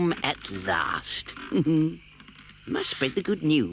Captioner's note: chuckles